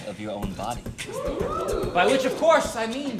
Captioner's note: crowd